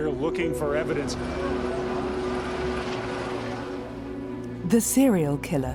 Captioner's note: helicopter whirring